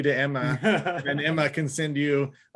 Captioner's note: laughs